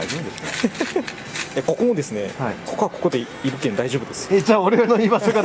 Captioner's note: laughs